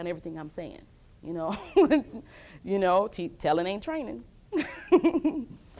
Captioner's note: laughs